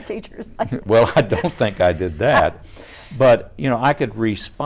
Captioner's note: chuckles; laughs